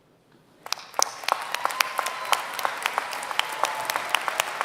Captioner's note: applause